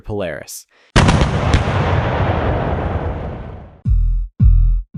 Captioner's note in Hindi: आर्टिलरी बमबारी।